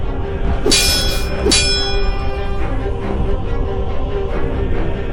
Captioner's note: swords clanging